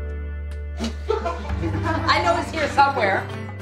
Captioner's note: people laughing